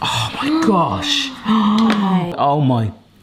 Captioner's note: both sigh